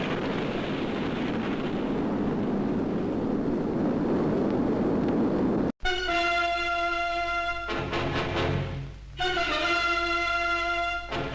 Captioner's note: sudden explosion